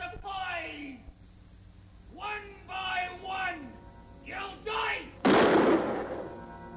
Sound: gun fires

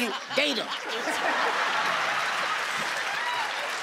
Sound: cheering

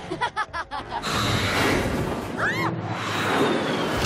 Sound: laughing

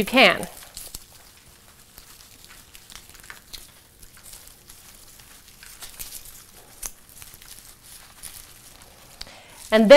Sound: sound of soil falling off of plant and plant rustling

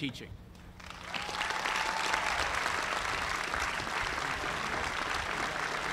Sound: cheers and applause

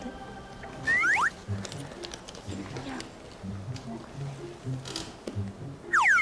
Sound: rummaging

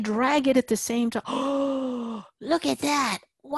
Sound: gasp

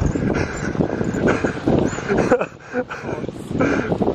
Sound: wind blowing; laughing

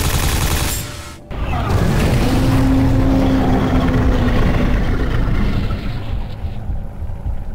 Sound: monster scream

